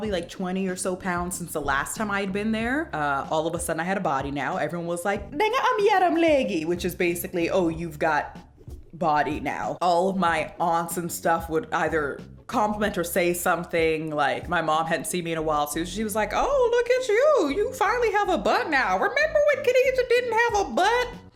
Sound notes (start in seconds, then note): 5.1 speaks in Wolof